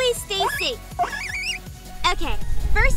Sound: Parsley squeaks

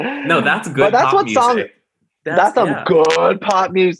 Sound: laughs

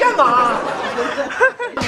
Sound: can't hold off the laugh

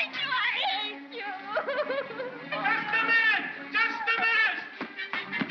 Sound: bawling; crowd yelling

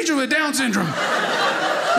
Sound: audience laughing

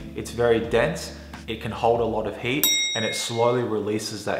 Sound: bell rings

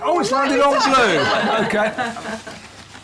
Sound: laughter

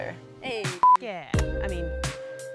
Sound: beep

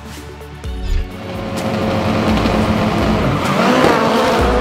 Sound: car engines

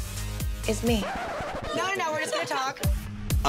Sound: record stops/laughter

